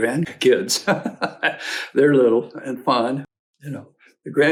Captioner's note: laughs